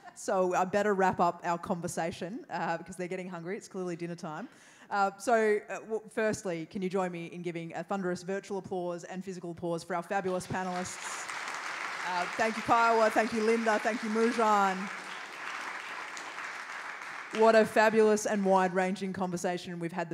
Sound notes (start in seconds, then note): 11.0 applause